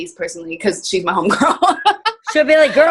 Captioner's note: laughing